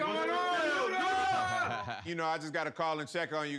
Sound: all yelling

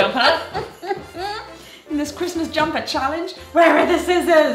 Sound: laughs

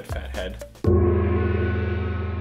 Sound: gong!

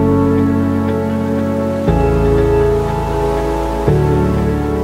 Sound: ocean wave sounds

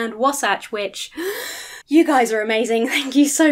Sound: inhales sharply

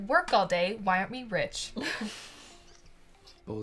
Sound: chuckling

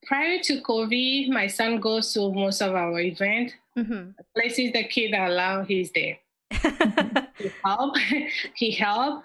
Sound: laughs

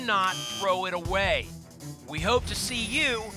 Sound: buzzer sound

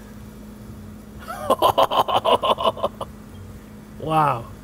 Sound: laughs

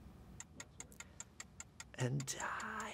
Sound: time ticking

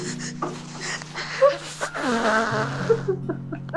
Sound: blows nose; crying

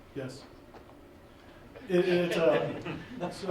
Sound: laughing

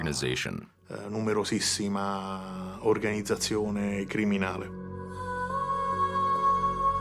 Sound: speaking in Italian

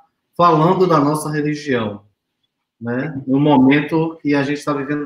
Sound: speaks portuguese

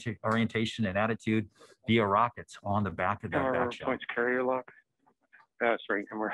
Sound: overlapping chatter

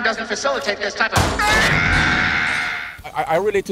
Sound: screaming

